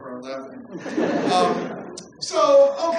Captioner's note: laughter